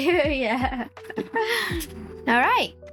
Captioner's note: laughs